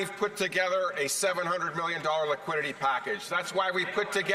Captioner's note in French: voix de l'interprète